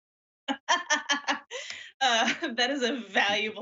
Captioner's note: laughs